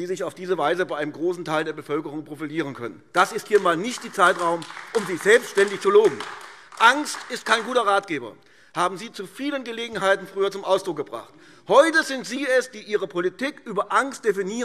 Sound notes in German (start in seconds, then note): 6.4 Beifall AfD